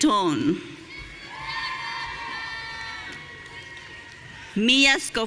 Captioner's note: audience cheering